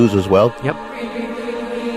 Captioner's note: recorded Voiceover